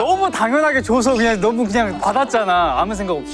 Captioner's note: attacked quietly